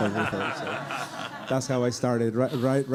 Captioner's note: audience laughing